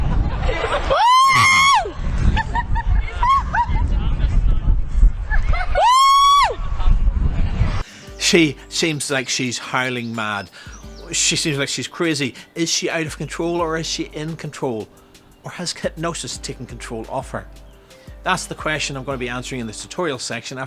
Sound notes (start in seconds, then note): 0.9 howl; 5.7 howl